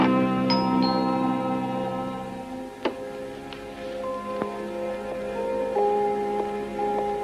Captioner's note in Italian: campanello